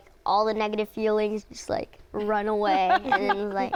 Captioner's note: laughter